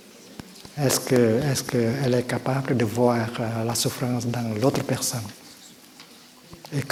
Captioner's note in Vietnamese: tiếng pháp